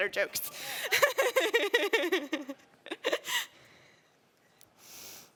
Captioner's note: laughing